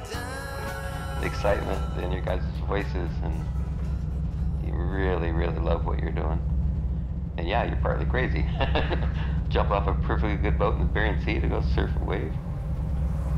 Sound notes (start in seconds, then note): 8.3 laughs